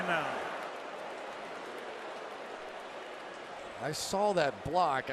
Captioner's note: booing